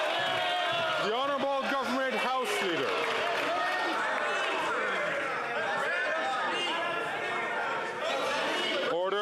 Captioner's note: some Applause